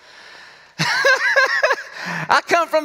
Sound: laughs

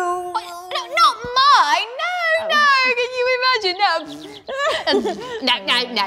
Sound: fart noises

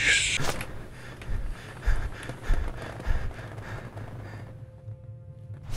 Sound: out of breath, panting

